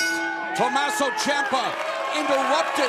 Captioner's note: bell ringing